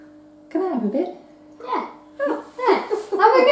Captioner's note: giggling